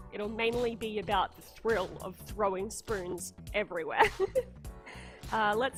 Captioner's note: laughter